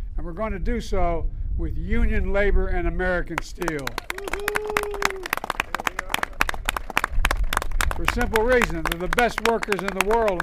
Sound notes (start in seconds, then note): 3.4 applause